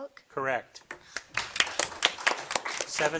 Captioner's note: audience applauding